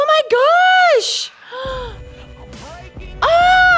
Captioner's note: gasps